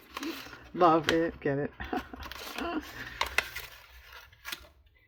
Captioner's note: laughs